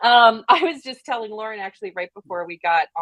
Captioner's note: laughs